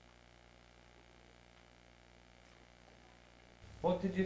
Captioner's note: recording plays